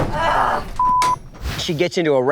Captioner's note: groans